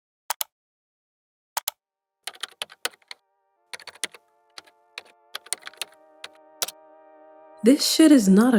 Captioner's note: clicking and typing